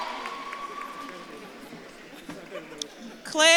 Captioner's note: audience claps and cheers